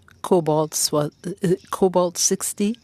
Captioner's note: speaking french